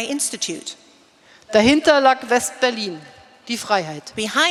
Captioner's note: speaking in German